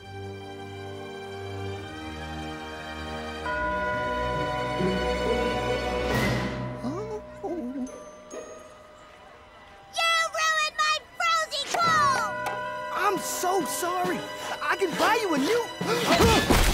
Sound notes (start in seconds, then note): 0.6 foreboding music; 6.8 whimpering; 16.0 gasps